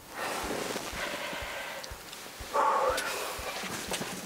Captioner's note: exhale sharply